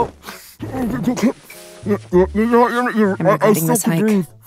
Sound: Himmel mumbling

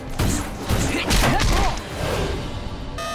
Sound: grunting

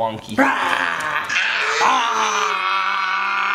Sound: roaring

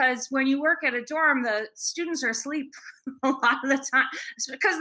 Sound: laughs

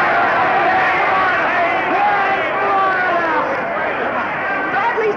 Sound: people cheering

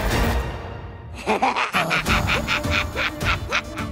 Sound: giggling

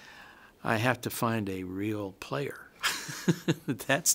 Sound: laughs

